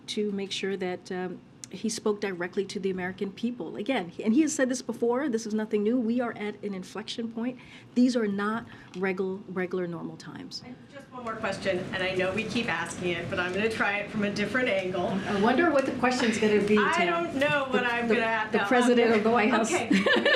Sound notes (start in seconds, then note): 17.1 laughs